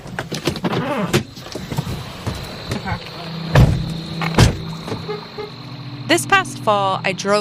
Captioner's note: exiting car / farm ambience